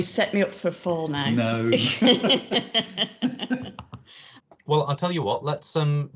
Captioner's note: laughs